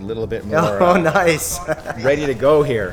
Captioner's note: laughs